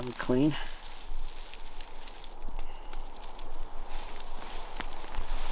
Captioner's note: rustling